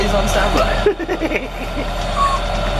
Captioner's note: laughter